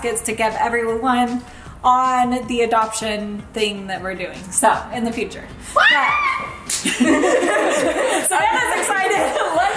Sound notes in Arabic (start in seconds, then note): 5.7 صراخ